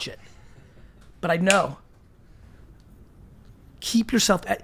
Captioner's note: snaps